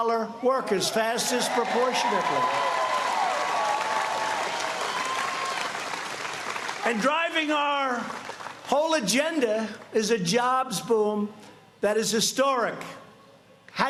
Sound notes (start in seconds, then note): 8.8 applause